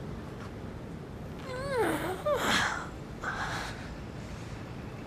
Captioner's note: pained groaning